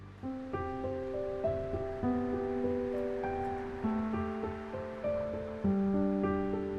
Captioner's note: gentle music; wind rustling softly